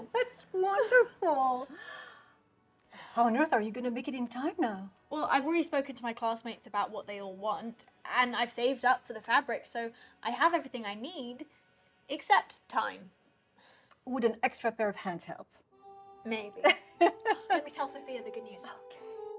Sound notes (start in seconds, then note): 16.6 Arlette laughs